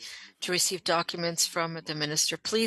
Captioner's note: speaking French